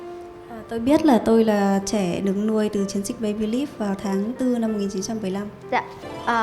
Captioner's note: woman translating to Vietnamese